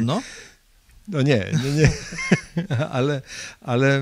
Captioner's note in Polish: śmiech